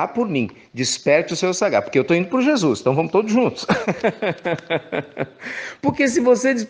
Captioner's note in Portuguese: risos